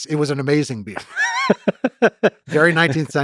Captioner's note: Lex laughs